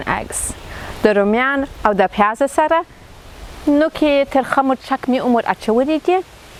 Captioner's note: speaking in foreign language